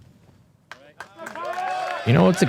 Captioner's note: applause